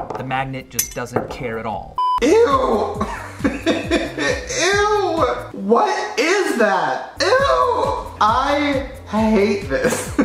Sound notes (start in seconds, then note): 2.8 nervous laughter; 9.8 more laughter